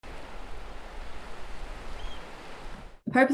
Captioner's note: sound of waves and an oystercatcher bird calling